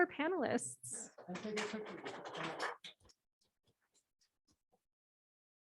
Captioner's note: applause